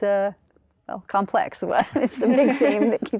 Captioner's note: laughter